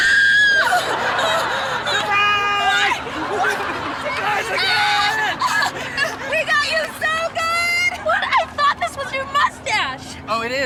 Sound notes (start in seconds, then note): 0.0 screaming; 3.6 laughing; 4.3 screaming